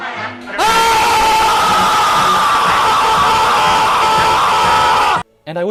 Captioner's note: Charles Dickens Screaming